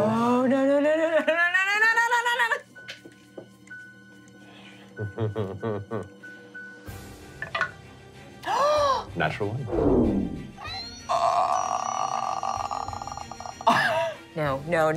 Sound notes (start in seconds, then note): 5.0 nervous laughing; 7.7 rolling dice; 8.8 gasp; 10.5 booming; 10.7 squealing; 11.3 gasping